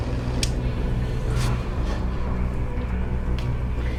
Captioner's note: switch clicking; pensive music continues